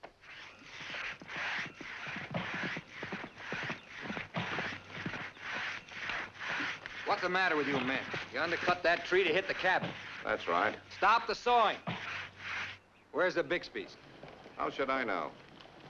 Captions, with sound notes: (sawing & galloping hooves) - What's the matter with you men? You undercut that tree to hit the cabin! - That's right. - Stop the sawing! Where's the Bixby's? - How should I know?